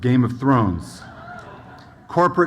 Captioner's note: audience hoots